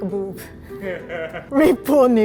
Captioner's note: producer laughs